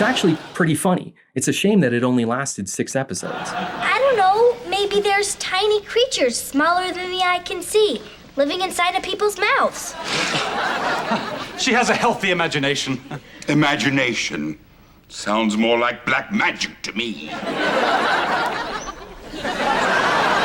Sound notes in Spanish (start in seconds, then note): 9.7 Risas; 17.3 Risas